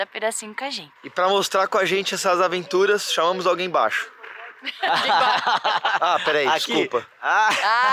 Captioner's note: laughs